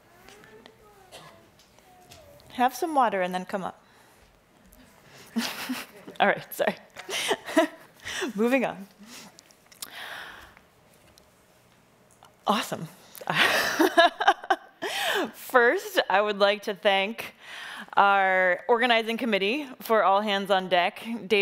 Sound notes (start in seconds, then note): 5.2 laughing; 13.8 laughing